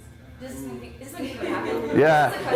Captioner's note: chatter